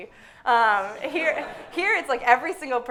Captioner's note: everyone laughing